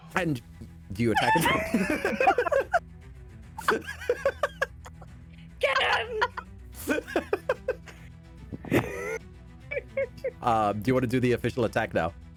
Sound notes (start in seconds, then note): 3.6 laughter